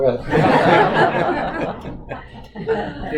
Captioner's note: audience Laughter